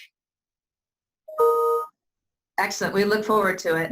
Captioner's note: computer chimes